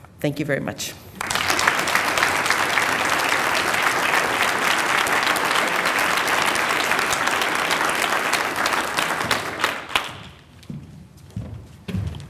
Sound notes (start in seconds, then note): 1.1 applause